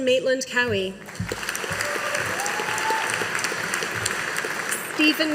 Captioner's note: audience applauding